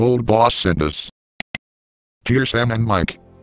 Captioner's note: click